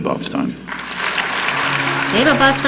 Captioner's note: audience clapping; upbeat music